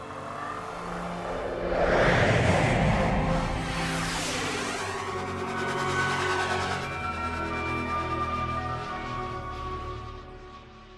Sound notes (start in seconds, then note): 0.5 whooshing